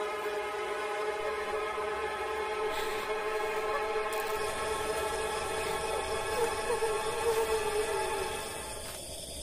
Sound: crying girl

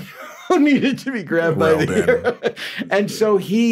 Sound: laughs

